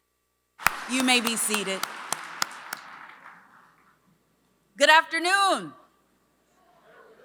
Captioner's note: applause